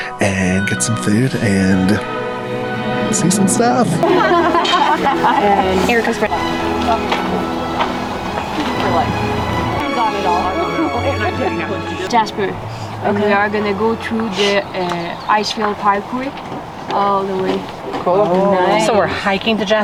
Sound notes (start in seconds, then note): 4.1 group laughing; 10.6 tourist laughs